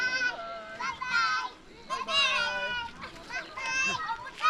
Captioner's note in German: Kinder rufen